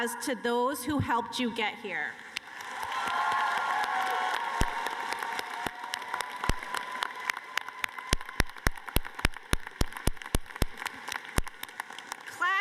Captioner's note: applause